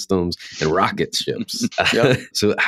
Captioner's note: laughter